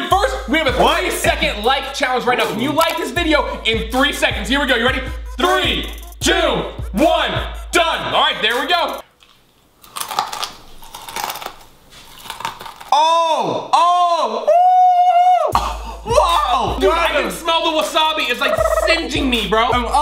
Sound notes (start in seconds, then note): 9.0 peas crunching; 14.9 screaming